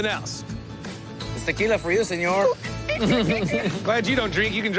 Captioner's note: Mexican accent